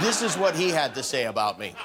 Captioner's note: laughter